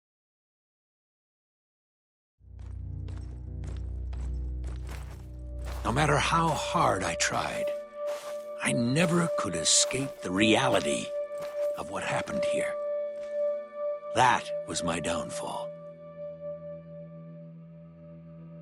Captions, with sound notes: *in-game audio* "No matter how hard I tried, I never could escape the reality of what happened here." "That was my downfall."